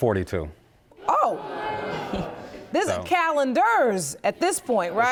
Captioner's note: audience moans